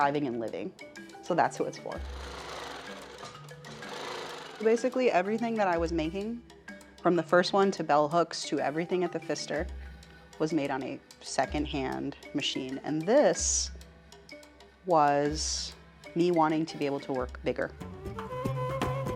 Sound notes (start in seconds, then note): 2.7 upbeat cheerful music; 3.7 sewing machine whirring; 12.0 upbeat cheerful music